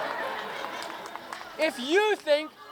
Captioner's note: cheering